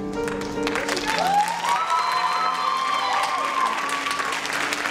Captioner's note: applause and laughter